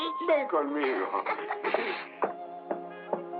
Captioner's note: chuckles